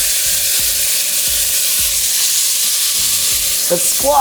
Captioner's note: sizzling